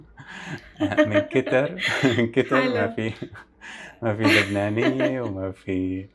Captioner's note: laughs